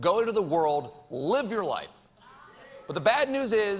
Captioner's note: laughter